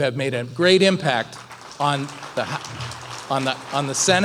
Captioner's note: applause